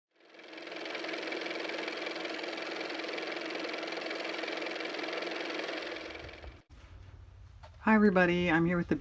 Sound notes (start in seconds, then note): 0.2 car motor